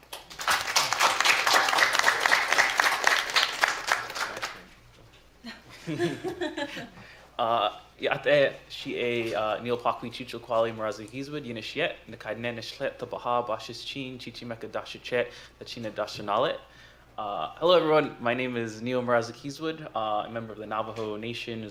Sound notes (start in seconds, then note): 0.0 applause; 12.6 non-english speech